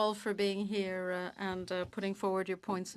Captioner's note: speaking French